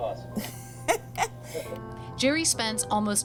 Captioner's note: laughs